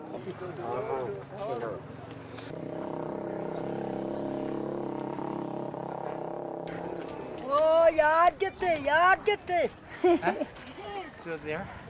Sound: talking in Tibetan

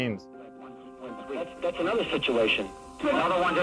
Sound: Bavardage radio

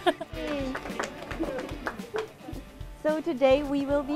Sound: applause

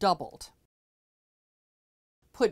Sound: no Sound Present

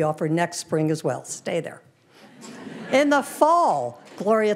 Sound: audience laughing

